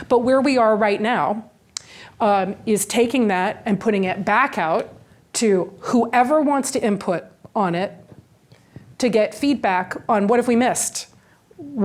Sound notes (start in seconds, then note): none